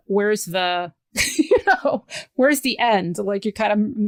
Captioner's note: laughs